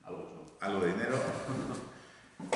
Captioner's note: laughs